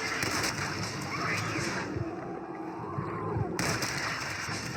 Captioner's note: sounds of bullet and shout of mutant spitter; sounds of cold blood and shoots; zombie exploding